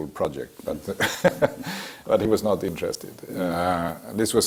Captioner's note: laugh